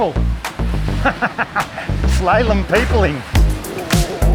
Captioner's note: laughing